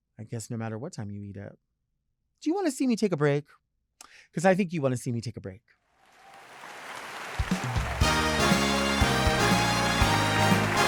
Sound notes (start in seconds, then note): 6.1 audience cheering; 7.9 bright music